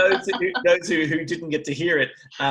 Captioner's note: laughs